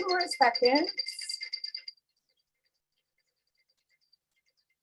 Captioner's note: bells chiming